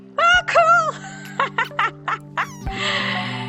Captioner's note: laughter